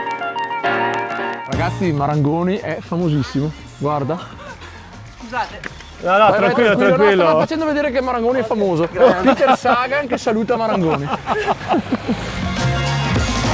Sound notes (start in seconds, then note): 11.2 laughs